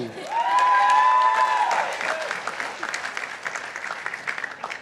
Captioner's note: participants applauding